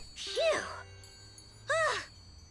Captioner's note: sighing